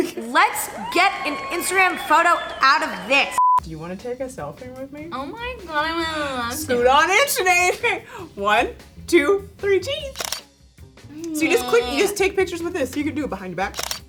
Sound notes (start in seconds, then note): 10.1 camera shutter flips